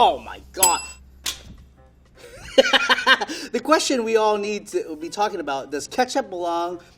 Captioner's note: bell rings; laughing